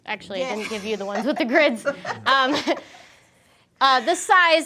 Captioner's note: laughs